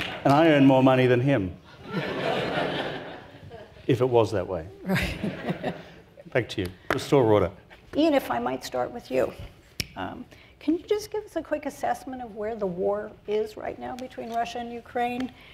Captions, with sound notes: And I earn more money than him. (audience laughs) If it was that way. - Right. - Back to you. Restore order. - Ian, if I might start with you. Can you just give us a quick assessment of where the war is right now between Russia and Ukraine?